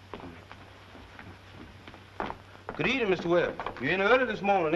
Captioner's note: humming